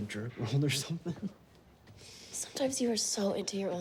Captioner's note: chuckles